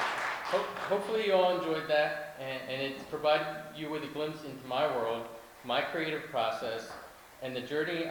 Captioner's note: applause